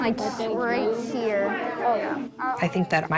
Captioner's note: kids chatting indistinctly